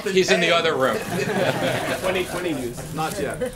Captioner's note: laughter